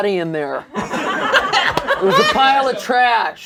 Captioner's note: laughter